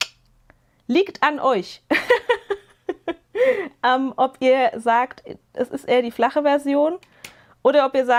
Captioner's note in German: gelächter